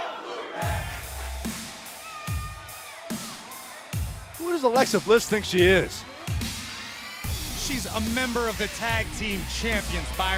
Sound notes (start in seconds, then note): 1.3 fans chanting